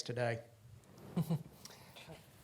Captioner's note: laughs